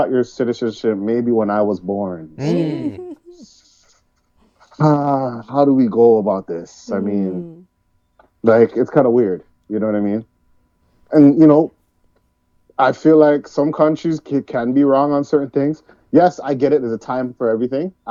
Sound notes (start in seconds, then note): 2.2 laughing